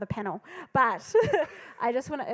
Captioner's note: laughing